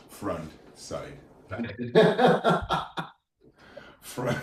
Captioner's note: laughing